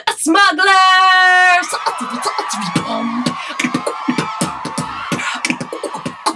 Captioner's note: comic cheering